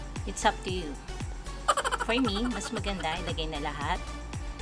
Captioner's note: laughing